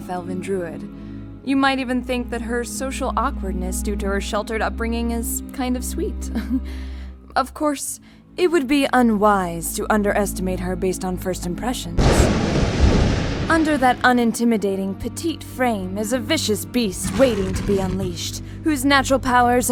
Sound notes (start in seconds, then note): 6.1 chuckle; 12.0 thunder